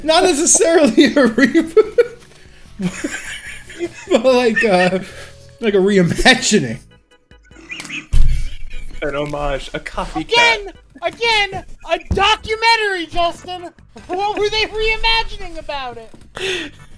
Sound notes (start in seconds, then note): 2.8 laughs; 7.4 laughs